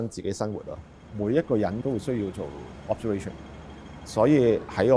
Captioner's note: street ambience fades in